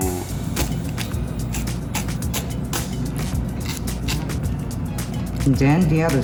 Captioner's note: scallions chopping